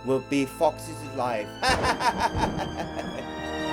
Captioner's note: Donald Wolf's evil laugh